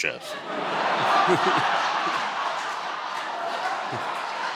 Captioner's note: audience laughing